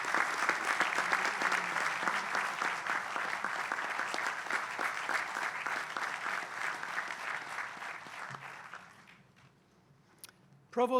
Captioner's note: applause